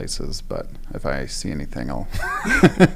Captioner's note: laugh